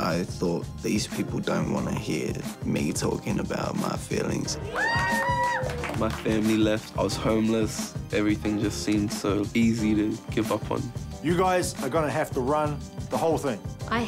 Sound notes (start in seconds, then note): 4.6 cheering